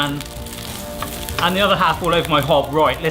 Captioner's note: food sizzling